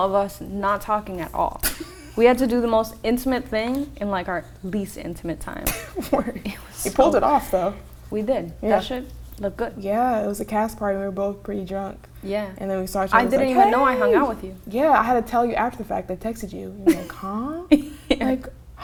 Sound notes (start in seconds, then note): 6.0 laughs